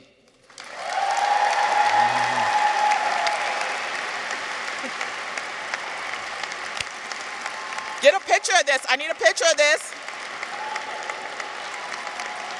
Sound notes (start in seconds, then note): 0.6 audience cheers; 0.6 audience applauds